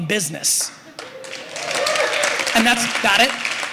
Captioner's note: applause